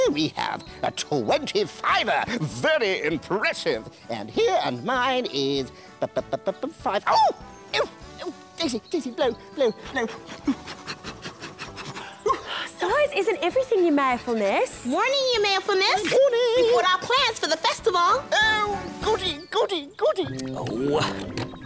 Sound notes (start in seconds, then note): 9.7 puffing